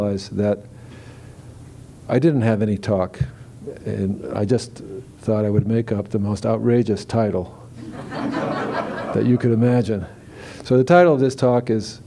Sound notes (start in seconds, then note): 7.8 laughter